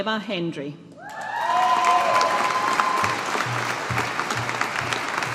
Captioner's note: audience applauding